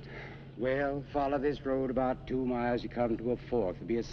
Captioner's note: sighs